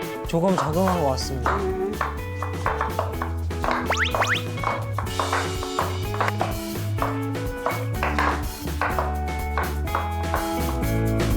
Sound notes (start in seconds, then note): 3.8 stumbling